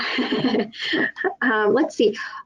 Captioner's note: laughs